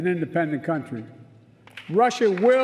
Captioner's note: applause